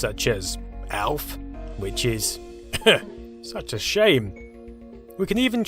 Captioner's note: ahem